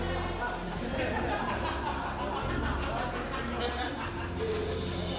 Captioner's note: laughter